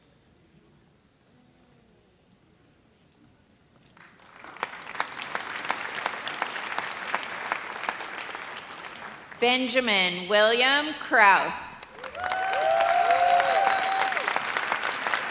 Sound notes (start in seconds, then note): 3.9 audience applauds; 11.9 audience cheers